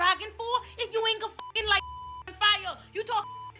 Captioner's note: beep